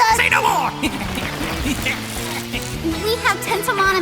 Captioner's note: rapid Climbing Noises